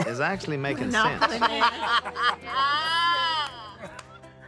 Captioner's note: laughing